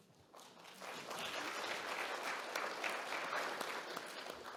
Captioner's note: audience clapping